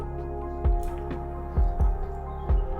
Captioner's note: voiceover